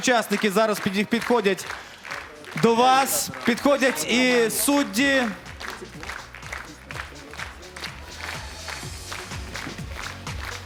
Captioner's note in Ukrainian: оплески